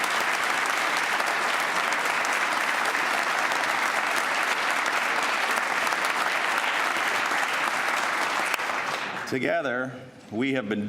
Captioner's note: applause